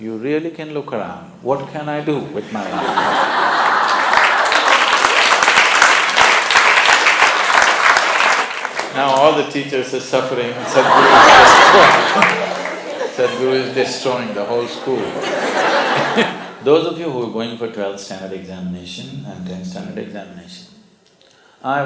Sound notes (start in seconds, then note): 5.2 laughter/Applause; 10.5 laughter